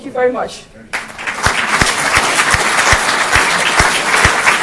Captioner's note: audience applauding